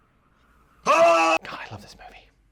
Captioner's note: engine cuts out; scream